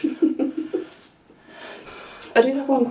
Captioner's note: person laughing